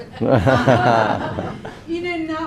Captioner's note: laughing